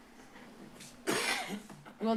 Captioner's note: rustles; coughs